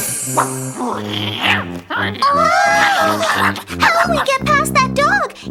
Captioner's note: dog growling